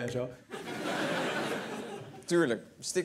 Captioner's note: laughter